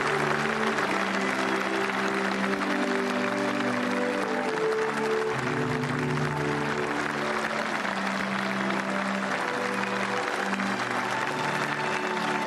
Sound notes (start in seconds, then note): 3.8 speaking global language; 9.9 applause; 9.9 speaking global language